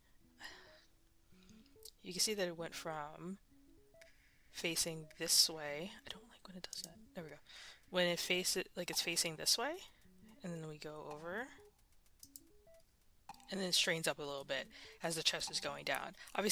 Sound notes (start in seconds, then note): 6.1 whispering; 11.6 mouse Click